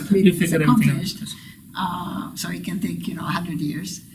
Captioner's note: laughs